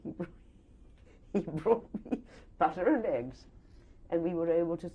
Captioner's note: laughs